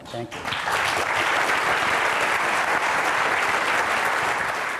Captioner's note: audience applauds